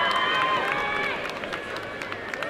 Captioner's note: applause